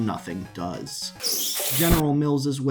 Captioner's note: abrupt, high-pitched squeal and crashing noise